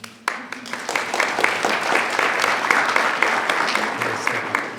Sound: attendees clapping

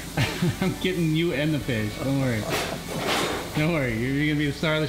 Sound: chuckles

